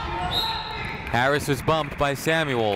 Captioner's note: whistle tweeting